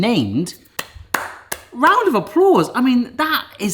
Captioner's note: clapping